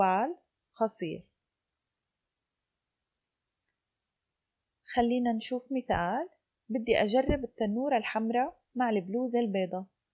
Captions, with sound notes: (in Arabic) let's look at an example